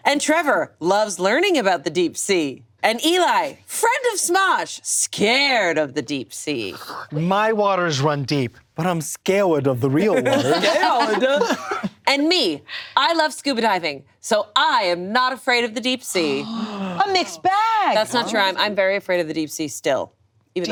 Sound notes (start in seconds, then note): 10.0 all laughing; 16.2 all gasping